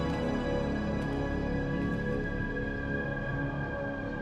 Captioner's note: none